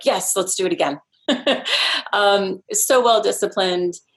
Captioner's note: laughs